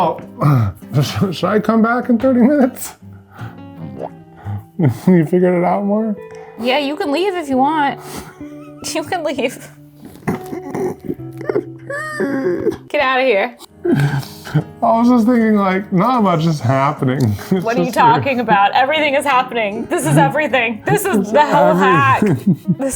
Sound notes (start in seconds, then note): 10.0 laughs